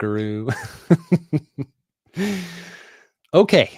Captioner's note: chuckles